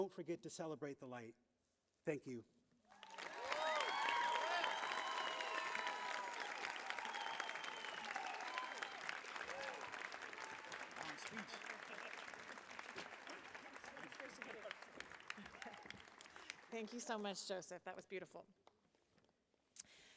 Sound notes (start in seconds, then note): 6.2 applause; 7.0 cheering